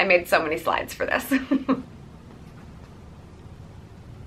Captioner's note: laughs